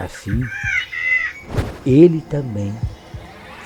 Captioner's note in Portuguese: Vento rápido